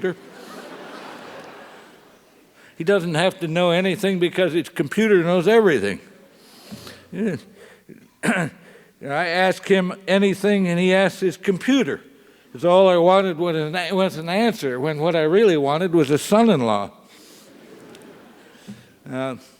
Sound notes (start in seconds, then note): 0.1 laugh; 8.2 cough; 17.6 laugh